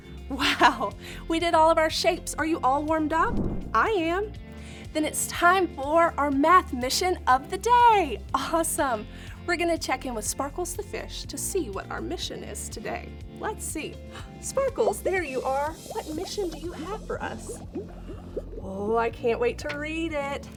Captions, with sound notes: Wow, we did all of our shapes! Are you all warmed up? I am! Then it's time for our math mission of the day! Awesome! We're gonna check in with Sparkles the Fish to see what our mission is today. Let's see. [gasps] Sparkles, there you are. What mission do you have for us? Oh, I can't wait to read it!